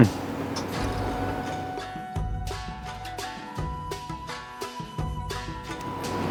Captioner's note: savoring; inspiring music